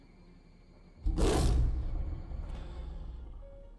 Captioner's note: roars